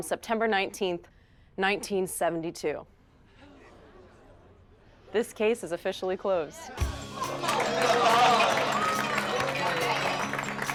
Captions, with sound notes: on September 19th, 1972. (group gasping) This case is officially closed. (group applauding)